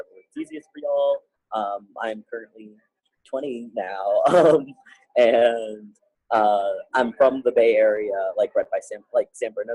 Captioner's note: laughing